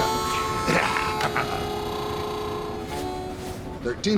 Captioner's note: hobo laughs